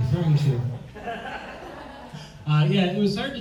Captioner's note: audience laughs